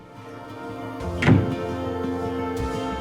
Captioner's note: door slam